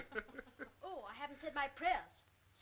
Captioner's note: adults laughing